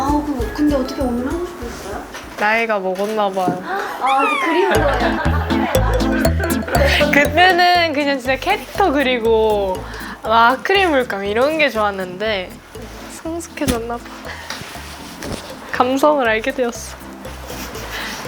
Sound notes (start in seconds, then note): 4.7 murmurs fill the room